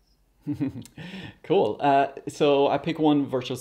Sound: chuckles

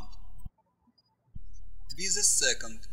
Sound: birds chirping

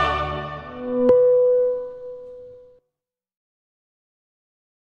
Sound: electronic tone pings

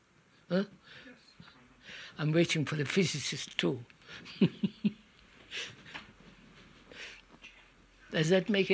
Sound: laughs

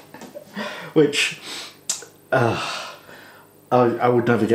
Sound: exasperated sigh

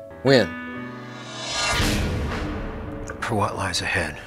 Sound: dramatic swishing

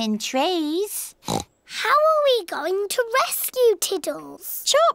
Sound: oinks

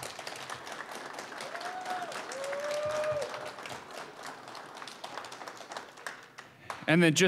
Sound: applause, cheering

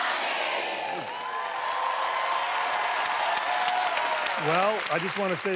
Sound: cheers and applause

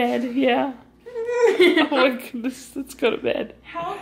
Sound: laughing

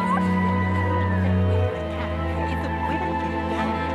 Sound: distant chatter

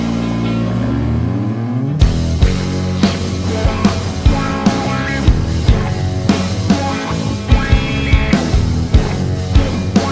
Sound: laugh

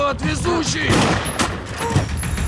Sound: gunshots

